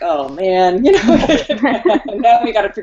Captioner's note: laughter